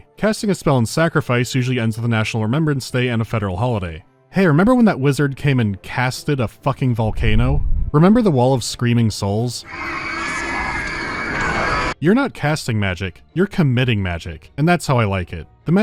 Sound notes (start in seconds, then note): 9.6 shrill screaming